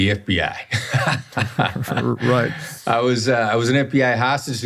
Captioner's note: laughs